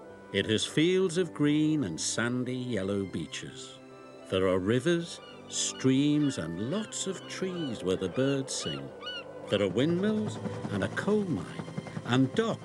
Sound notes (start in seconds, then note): 8.2 gulls calling; 11.2 helicopter buzzing